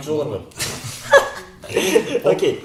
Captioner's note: laughs in embarrassed